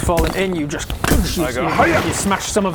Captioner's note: boosh